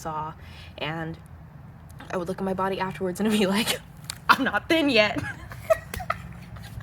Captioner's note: laugh